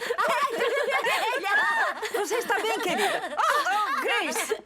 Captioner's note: laughter